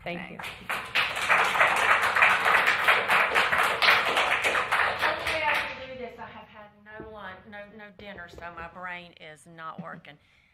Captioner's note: applause